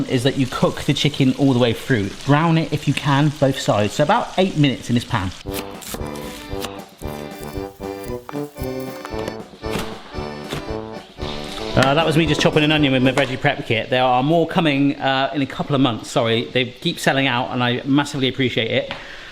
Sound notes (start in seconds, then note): 5.4 cheerful polka music; 9.7 onion crunches